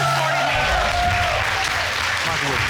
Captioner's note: audience cheering